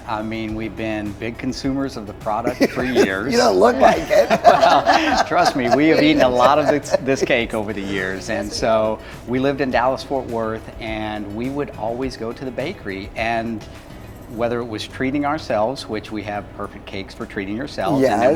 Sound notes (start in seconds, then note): 4.4 all laugh